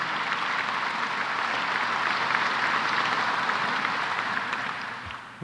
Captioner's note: applause